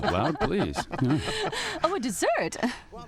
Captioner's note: laughter